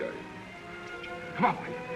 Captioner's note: clicking